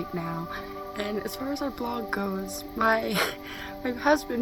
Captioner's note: giggles